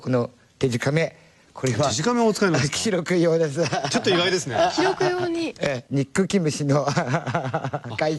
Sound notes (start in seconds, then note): 7.2 cười